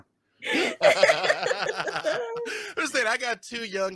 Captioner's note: laughing